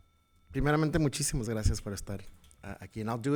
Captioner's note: speaking in Spanish